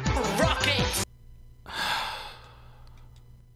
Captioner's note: sigh